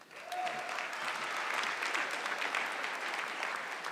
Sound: audience clapping

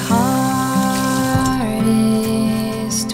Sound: water runs; water flicks

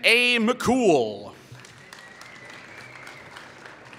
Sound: applause

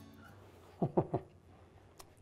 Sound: laughs

